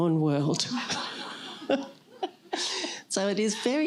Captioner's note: laughter